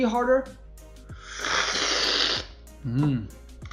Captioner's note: slurping